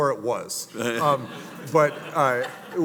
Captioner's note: audience laughing